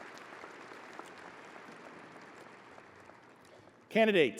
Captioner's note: audience applauding